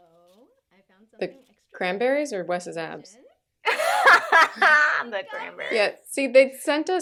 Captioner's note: laughter